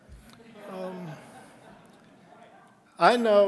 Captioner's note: audience laughing